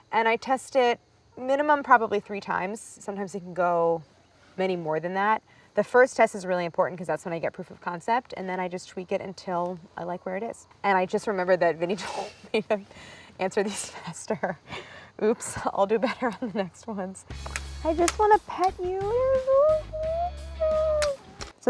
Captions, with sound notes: And I test it minimum probably three times. Sometimes we can go many more than that. The first test is really important 'cause that's when I get proof of concept, and then I just tweak it until I like where it is. And I just remembered that Vinny told me to answer these fester. (laughs) Oops, I'll do better on the next ones. I just wanna pet you. (squealing)